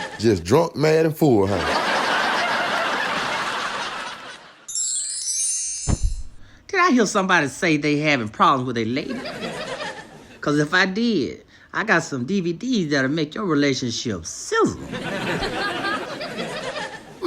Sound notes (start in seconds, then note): 5.8 poof